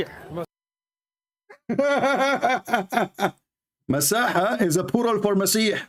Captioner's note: Ketawa